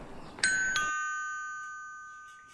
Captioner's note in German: Ding Dong